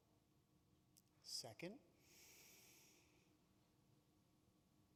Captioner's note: inhales